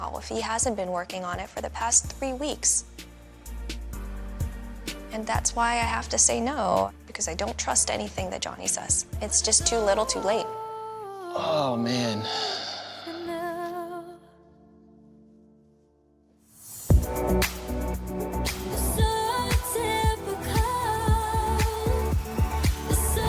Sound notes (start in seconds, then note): 11.3 sighs; 16.9 upbeat music